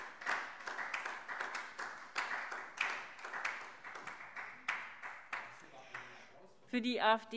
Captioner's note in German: Beifall SPD